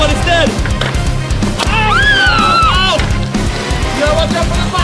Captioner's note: screaming